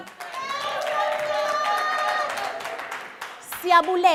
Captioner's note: crowd cheers